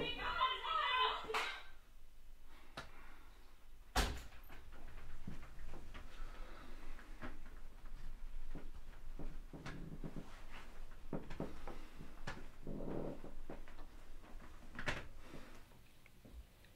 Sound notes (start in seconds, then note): 1.5 loud strike